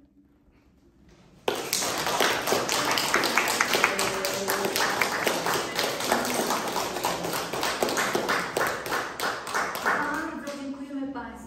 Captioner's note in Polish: oklaski